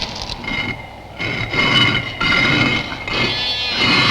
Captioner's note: stone scraping